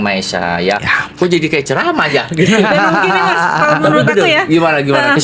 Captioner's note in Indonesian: tertawa